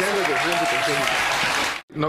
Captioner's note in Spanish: aplausos